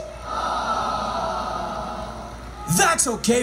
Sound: crowd groaning

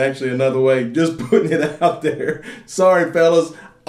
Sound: laughs

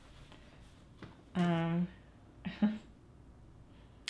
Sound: laughs

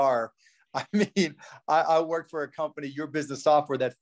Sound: laughs

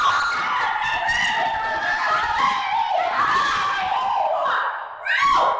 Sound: Nicole shrieks; loud shouting

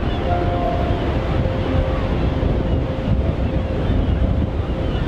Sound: birds calling

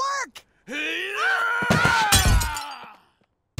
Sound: grunting; screaming

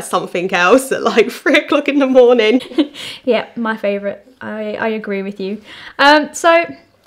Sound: laughing

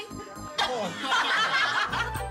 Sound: laughing

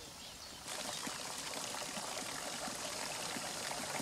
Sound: liquid splattering

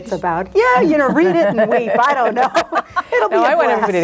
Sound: laughs

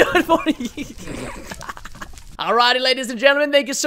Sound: laughing

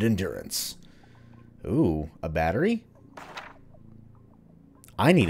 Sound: journal opens; journal closes

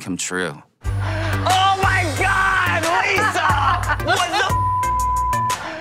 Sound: laughs

